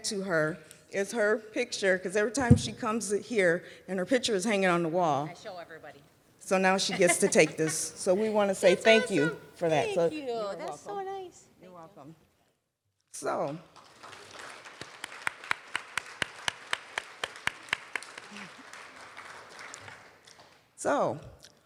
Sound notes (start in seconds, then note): 11.9 applause